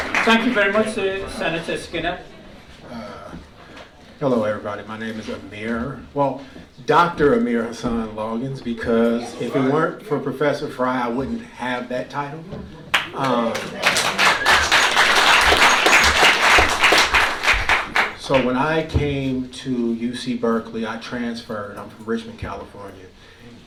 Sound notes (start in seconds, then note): 12.9 applause